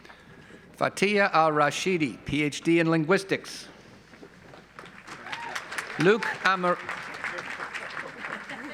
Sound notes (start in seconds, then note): 4.7 audience applauds